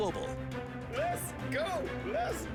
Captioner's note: laughs